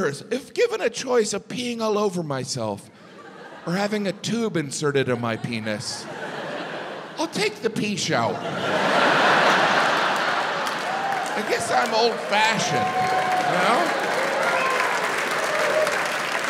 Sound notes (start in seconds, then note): 8.4 audience laughs; 13.3 audience applauds